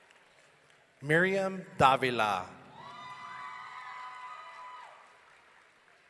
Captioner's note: audience cheering